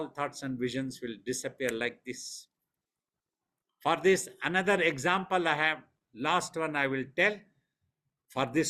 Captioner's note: clicks fingers